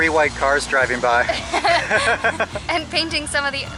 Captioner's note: laughter